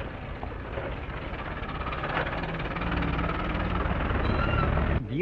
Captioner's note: crowd chattering; car engine puttering